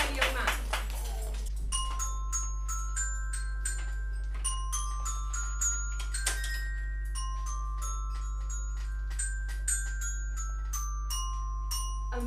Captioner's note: child playing